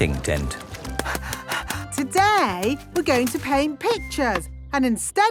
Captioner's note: panting